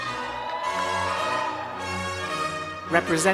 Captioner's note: cheers